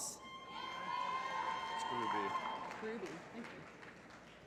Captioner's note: applause